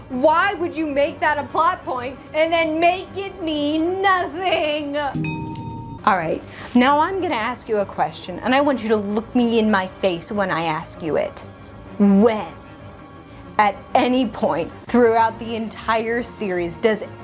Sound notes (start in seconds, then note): 5.1 ding!